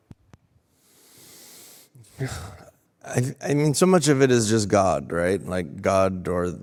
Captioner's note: breathes deeply